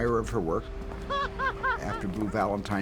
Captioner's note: laughing